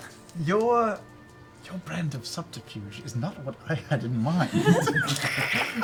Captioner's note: whispers; laughter